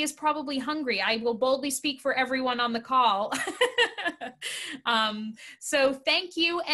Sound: laughs

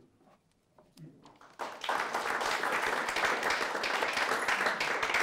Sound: audience applauds

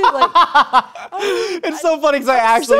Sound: laughing

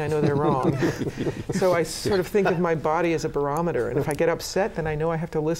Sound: laughter

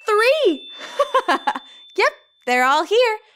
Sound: laughing

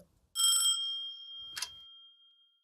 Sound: phone rings

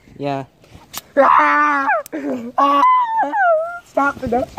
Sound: painfully screaming

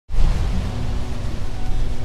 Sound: waves crashing

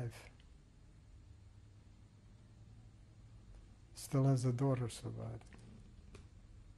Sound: pauses for 3 seconds

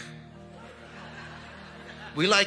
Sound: congregation laughing

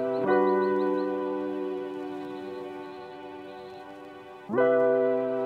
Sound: sounds of birds in the distance; warm, upbeat, Introduction music plays

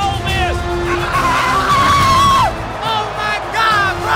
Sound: screaming

